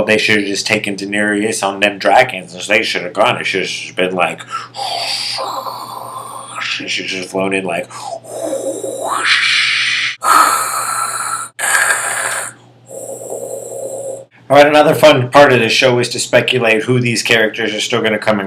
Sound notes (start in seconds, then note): 8.8 real sounding dragon noise